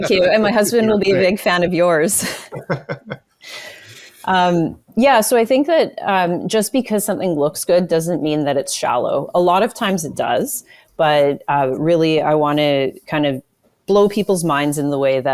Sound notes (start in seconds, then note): 2.2 laughing